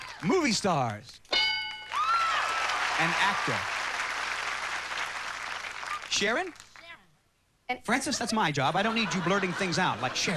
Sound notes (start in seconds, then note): 1.9 shrieks; 4.6 applause